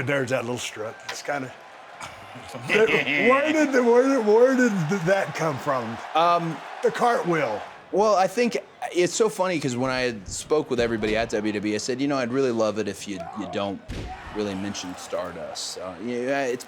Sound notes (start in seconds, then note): 3.0 Cody chuckles